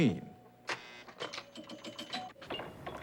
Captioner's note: old game dings